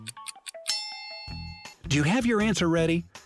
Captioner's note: bell dinging